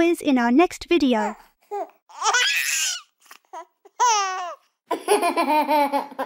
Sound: giggles

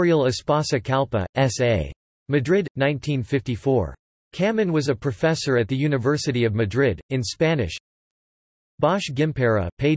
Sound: in Spanish

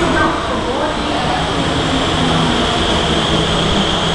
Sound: train arriving sound

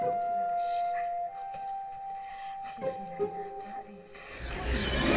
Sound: laughs

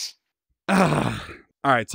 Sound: groans

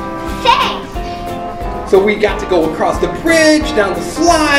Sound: voiceover

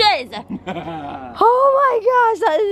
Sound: laughs

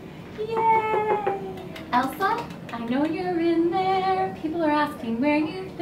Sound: knock knock

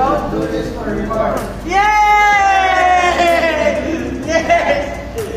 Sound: and another series of screams!

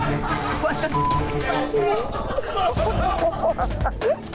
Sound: beep

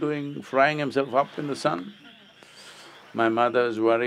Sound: laughter

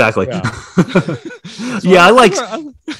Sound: laughing

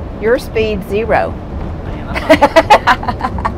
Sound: laugher

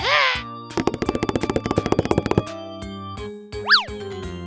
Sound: fast tapping

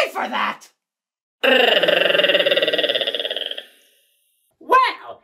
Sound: platypus chatter

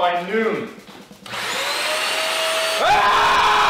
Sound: loud vacuum noises

